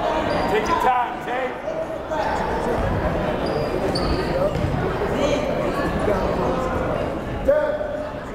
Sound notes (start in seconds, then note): 0.7 yelling